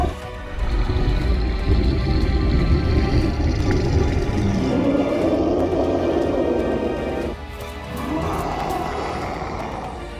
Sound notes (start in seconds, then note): 0.4 ragged Breathing